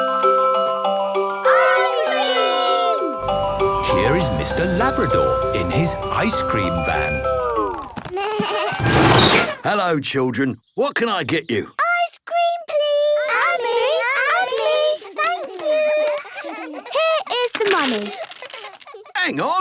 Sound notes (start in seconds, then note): 0.2 ice cream truck jingle; 7.8 bleating, trumpeting